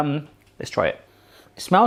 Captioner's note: loud sniffing